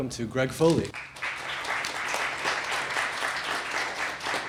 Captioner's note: applause